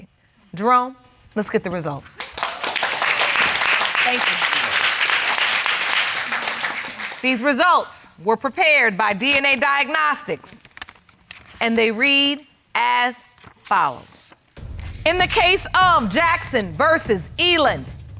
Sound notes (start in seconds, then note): 2.2 audience applauding